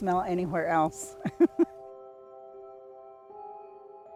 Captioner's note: laughs